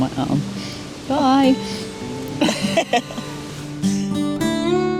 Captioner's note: giggles